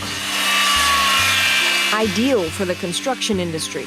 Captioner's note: saw buzzing